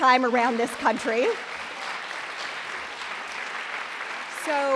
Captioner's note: applause